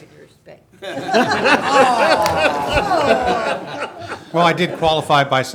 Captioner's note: audience laughing